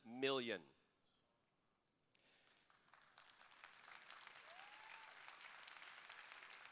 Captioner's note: applause